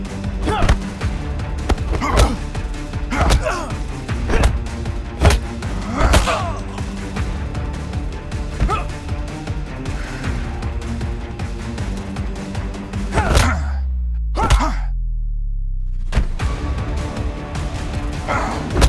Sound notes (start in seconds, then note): 0.1 both moaning; 3.0 dramatic music; 5.6 both moaning; 7.7 dramatic music; 14.4 both moaning; 16.4 dramatic music